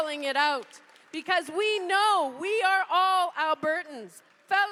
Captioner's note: cheers and applause